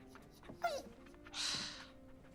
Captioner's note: Earl whines